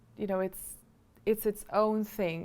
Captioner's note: none